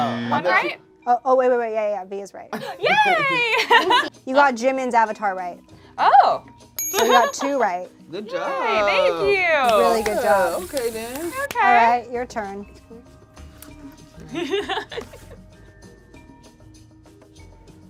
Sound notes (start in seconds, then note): 14.9 laughs